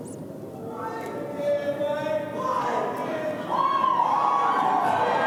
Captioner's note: audience cheering